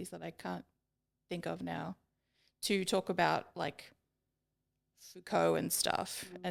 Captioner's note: none